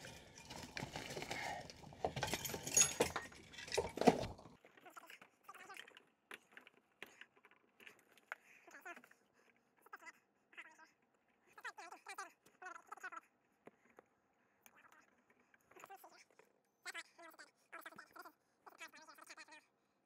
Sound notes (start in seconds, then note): 1.5 tools clanging; 5.0 tape fast-forwarding